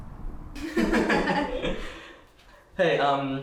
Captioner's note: both laughing